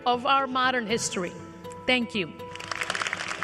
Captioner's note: applause